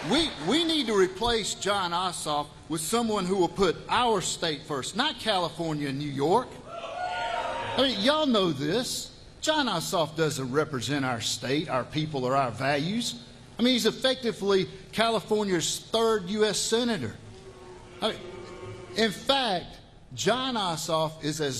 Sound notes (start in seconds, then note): 3.7 cheers